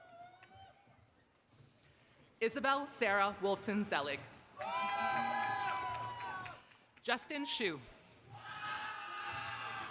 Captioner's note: applause